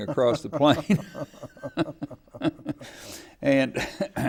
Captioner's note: laughing